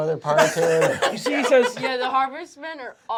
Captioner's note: laughter